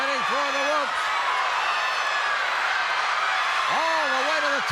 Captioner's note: crowd cheers